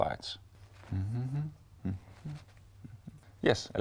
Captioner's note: humming